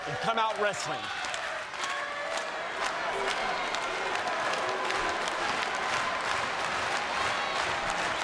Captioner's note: applause